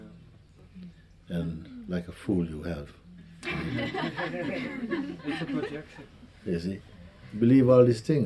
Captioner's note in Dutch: gelach